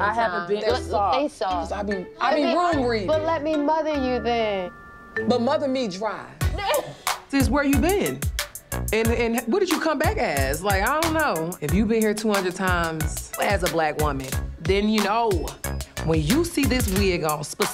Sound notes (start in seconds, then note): 6.5 laughing